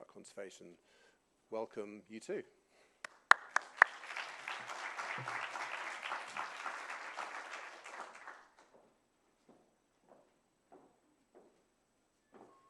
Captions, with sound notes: conservation. Welcome you two. [APPLAUSE]